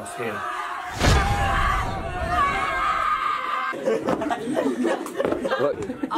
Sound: screaming

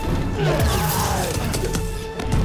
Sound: scream

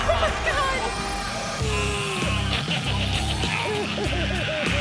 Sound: growling

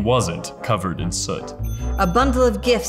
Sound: ding ding

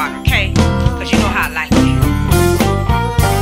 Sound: woman on phone

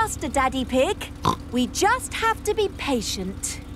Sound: snorts

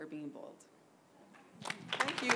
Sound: applause

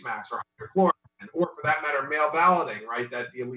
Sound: audio distorts

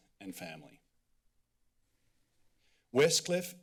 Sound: silence

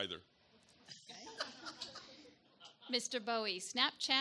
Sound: audience chuckles

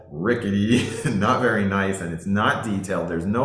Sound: laughing

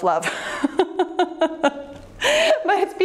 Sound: laughs

